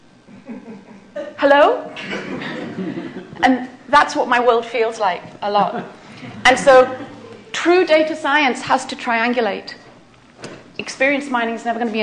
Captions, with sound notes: [LAUGHTER] Hello? [LAUGHTER] And that's what my world feels like a lot. And so true data science has to triangulate. Experience mining is never going to be